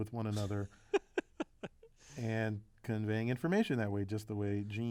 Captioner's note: laugh